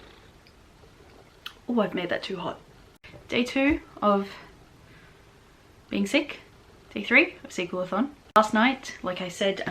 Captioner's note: sips